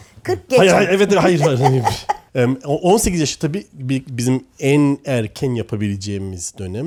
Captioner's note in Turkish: kahkaha